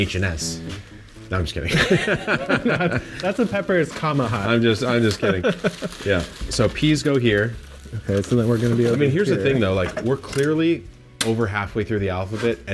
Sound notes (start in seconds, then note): 1.6 both laughing; 4.9 laughs